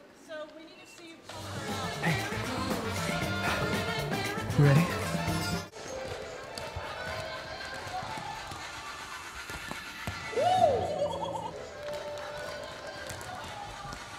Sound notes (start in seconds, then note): 6.6 dance music; 10.8 laughs